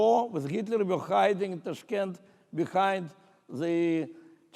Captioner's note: speaking in foreign language